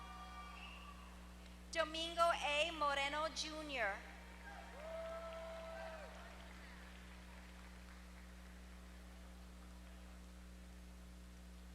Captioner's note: applause